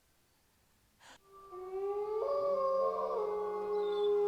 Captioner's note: wolves howl